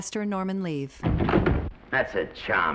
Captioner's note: doors thudding